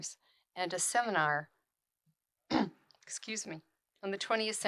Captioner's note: clears throat